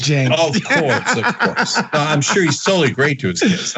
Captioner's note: laugh